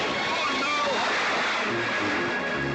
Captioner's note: splash